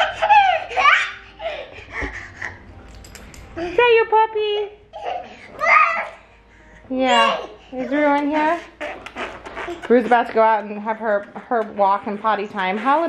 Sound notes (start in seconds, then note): 0.0 giggles; 8.8 shouts